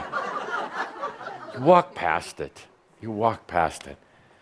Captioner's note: some chuckles